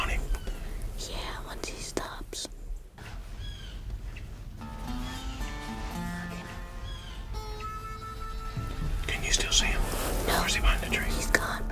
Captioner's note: whispering; whispering